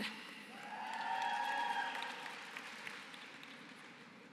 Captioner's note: applause